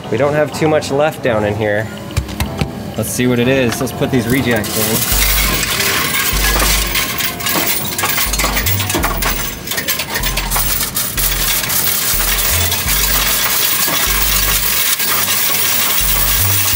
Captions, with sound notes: We don't have too much left down in here. Let's see what it is. Let's put these rejects in. (coins rattling) (upbeat music)